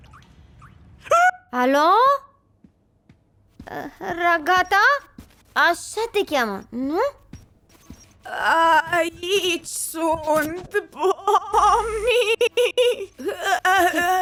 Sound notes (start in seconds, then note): 1.1 shrieks; 8.0 voice glitching, stuttering continuously